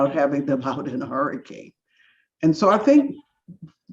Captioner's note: laughs